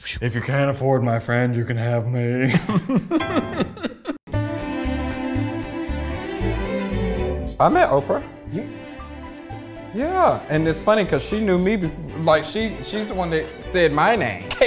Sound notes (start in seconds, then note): 2.4 both laughing; 4.3 lively orchestral music